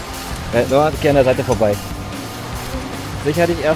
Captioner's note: laugh; speaking German